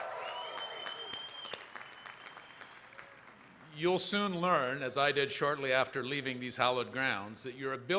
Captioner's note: applause